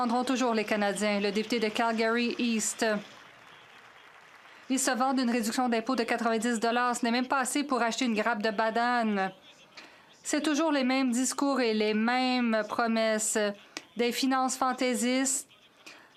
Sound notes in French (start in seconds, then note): 6.1 voix de l'interprète